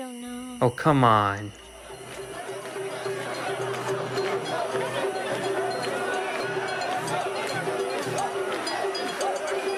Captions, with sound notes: - I don't know. - Oh, come on. (instruments drumming) (people chanting)